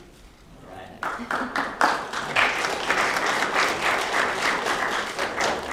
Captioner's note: applause